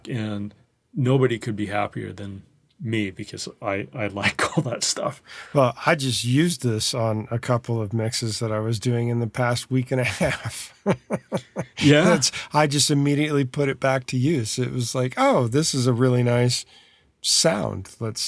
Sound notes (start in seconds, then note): 10.0 laughs